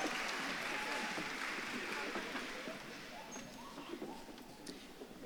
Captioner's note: audience claps and cheers